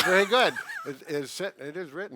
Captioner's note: laughs